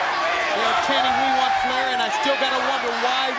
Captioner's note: crowd cheering